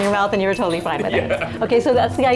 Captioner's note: laughing